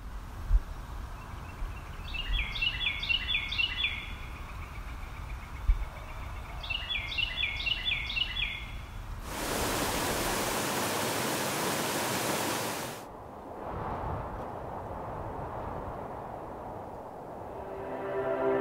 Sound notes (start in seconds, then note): 0.2 breeze blowing; 2.8 birds singing; 9.2 water flowing; 16.1 wind blowing